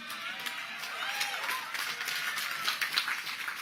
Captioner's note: cheers and applause